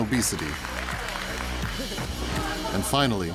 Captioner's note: audience applauding